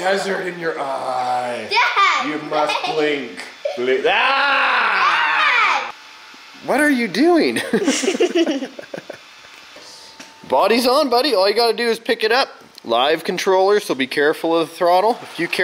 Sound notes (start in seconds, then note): 7.6 laughs